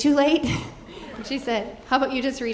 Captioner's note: audience chuckling